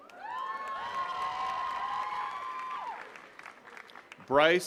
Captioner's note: attendees cheering and clapping